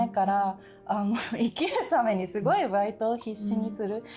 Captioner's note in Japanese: 笑い